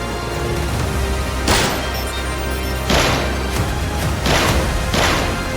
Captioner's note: guns firing